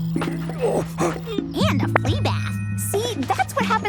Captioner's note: sniffing